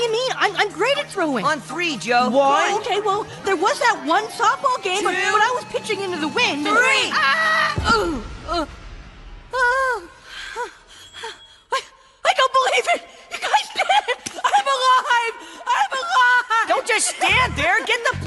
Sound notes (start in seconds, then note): 9.7 yelling